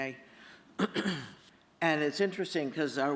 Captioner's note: clears throat